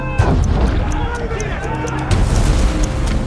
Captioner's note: yelling